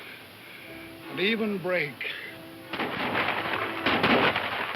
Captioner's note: guns firing